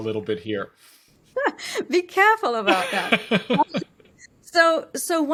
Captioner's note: laughs